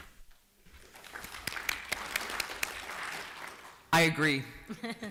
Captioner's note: applause